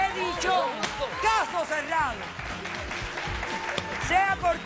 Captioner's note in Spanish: Aplausos